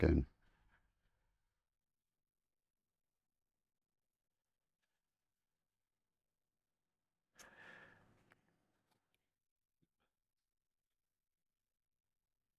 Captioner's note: silence